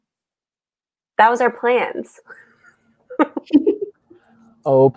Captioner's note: laughs